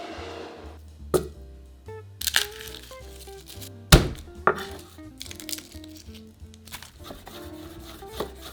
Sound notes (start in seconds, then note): 2.2 garlic paper rustling; 3.8 knife smashing